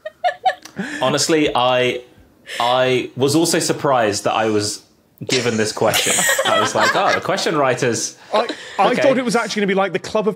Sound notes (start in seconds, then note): 0.0 giggles; 5.3 guessers laughing